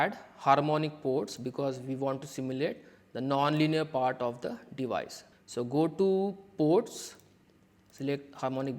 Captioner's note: click